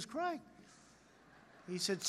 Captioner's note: laughter